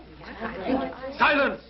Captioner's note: girls murmuring